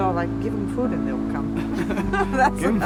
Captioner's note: laughing